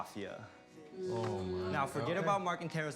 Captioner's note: groans